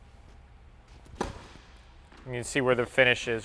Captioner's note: ball striking racket